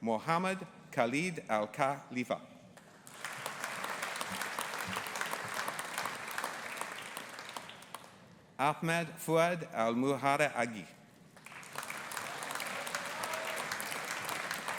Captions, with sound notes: Mohamed Khaled AlKhalifa. (AUDIENCE APPLAUDING) Ahmed Fuad Almuharraqi. (AUDIENCE APPLAUDING)